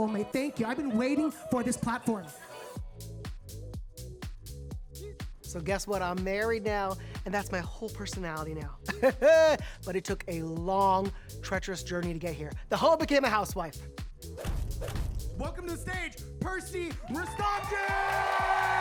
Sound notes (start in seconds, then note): 2.7 upbeat music; 9.1 laughs; 14.4 upbeat music